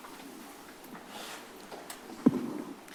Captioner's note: rustles